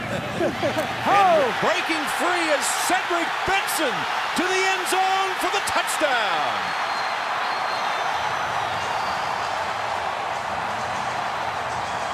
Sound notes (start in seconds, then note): 0.0 laughter; 7.6 cheering